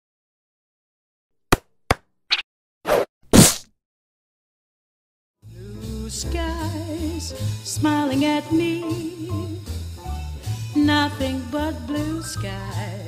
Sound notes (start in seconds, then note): 0.8 playful sound effects